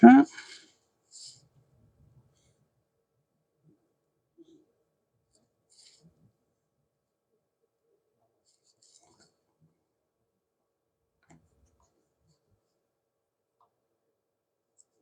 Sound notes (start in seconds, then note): 4.7 silence